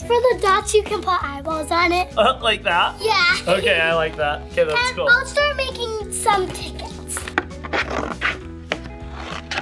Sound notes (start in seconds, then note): 3.1 laughs; 7.7 scissors crunch